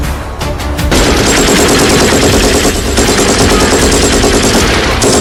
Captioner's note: gunshots firing